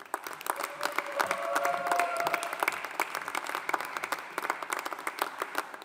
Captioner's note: audience applauding; audience cheering